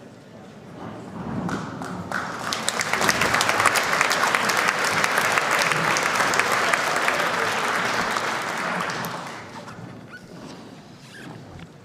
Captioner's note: applause